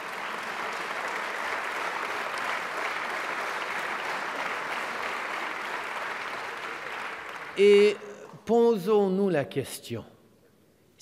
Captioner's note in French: Applaudissements